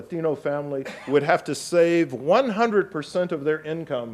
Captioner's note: audience member coughs